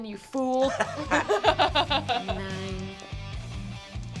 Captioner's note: laughter